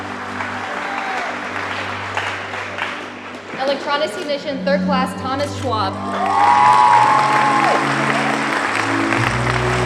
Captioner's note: applause